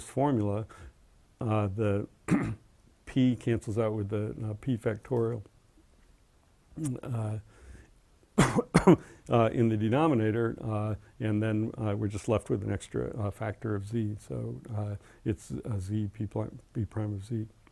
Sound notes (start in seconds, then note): 2.2 cough; 5.1 cough